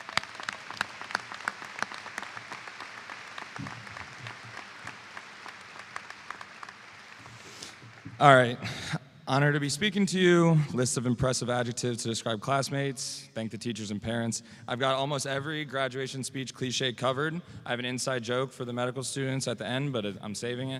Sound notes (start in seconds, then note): 3.0 applause